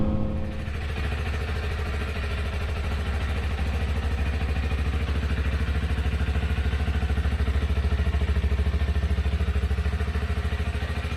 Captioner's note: engine running